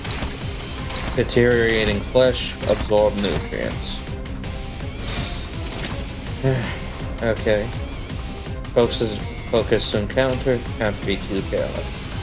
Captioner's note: sigh